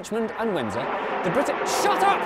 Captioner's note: jet engine noise